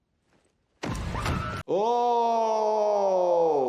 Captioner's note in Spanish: Una persona grita